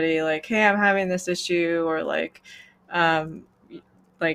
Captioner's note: none